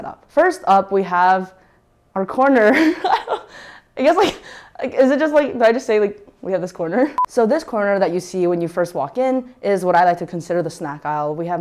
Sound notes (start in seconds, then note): 2.7 laughs